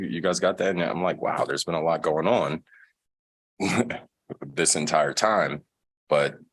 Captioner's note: laughter